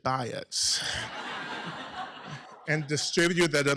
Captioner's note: laughter